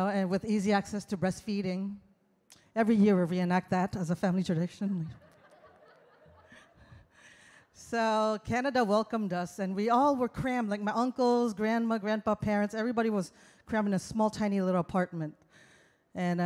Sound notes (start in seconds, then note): 5.2 audience laughs